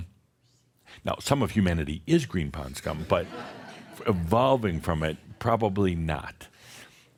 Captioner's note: some chuckles